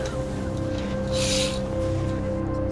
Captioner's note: curtain rattle